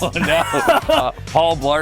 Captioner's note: laughing